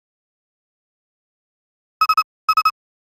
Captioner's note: silence